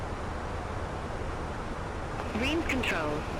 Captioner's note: radio chatter